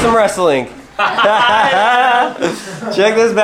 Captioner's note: laughing